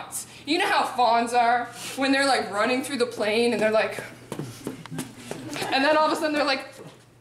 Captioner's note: prancing